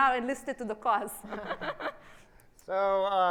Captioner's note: laughs